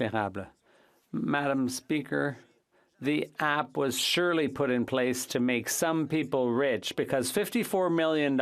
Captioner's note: speaking French